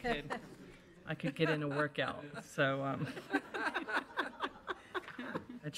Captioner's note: group laughs